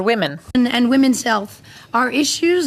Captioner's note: speaking French